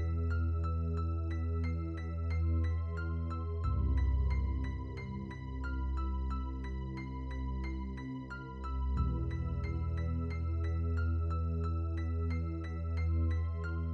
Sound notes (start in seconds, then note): none